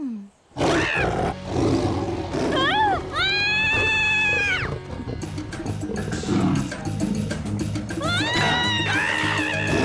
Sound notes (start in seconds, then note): 0.6 fierce roar; 2.5 frightened screaming; 6.3 growls